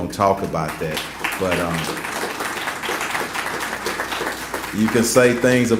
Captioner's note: applause